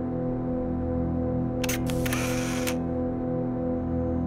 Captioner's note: camera click